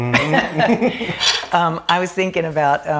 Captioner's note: laughing